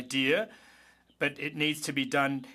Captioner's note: speaking French